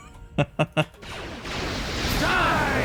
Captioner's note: laughs